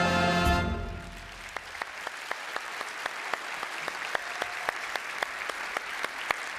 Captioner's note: applause